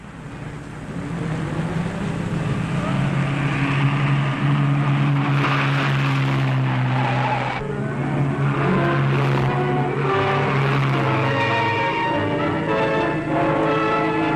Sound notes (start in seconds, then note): 3.4 engine roaring; 6.3 suspenseful instrumental music; 11.3 tires squealing